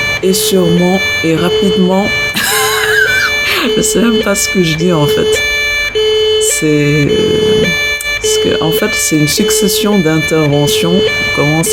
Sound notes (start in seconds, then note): 6.7 laughter